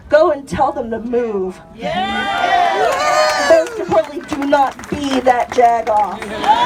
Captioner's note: cheers